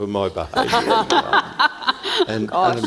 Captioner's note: all laughing